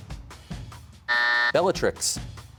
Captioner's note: buzzer sounds